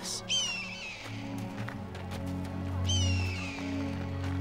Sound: bird squawking

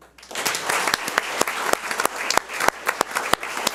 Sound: audience applauds

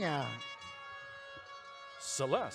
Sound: audience cheering

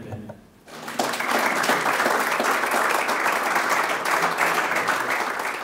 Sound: crowd applauding

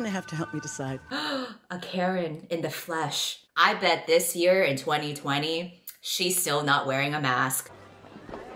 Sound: gasp

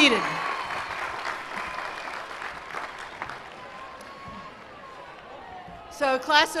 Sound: cheers and applause

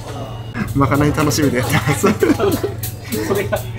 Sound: laughs

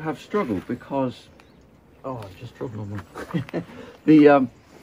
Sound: chuckles

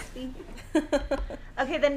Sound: laughing

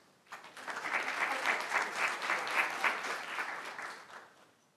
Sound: audience applauds

